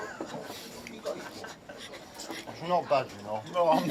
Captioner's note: scoffs